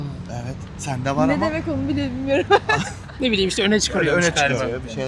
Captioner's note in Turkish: kahkaha